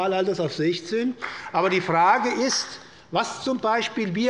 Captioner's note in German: Beifall der Abg